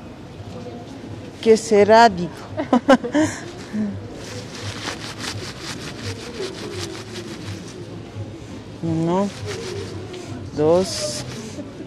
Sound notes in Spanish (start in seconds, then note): 2.5 risas